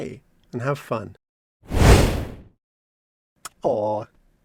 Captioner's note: fire